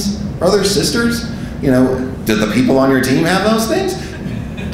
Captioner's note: audience laughing